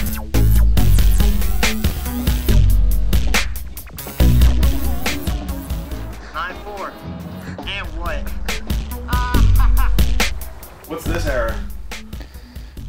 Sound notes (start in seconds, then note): 9.7 laughs